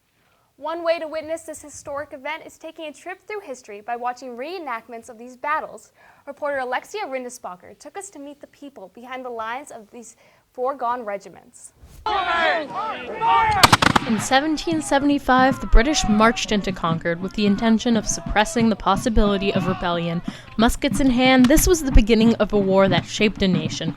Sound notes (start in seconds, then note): 11.8 various yelling and gunfire